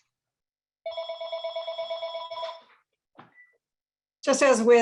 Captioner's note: phone ringing